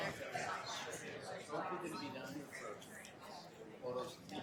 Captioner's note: people chattering